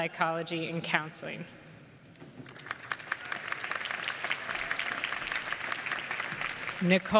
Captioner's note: applause